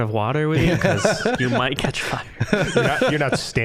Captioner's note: all laughing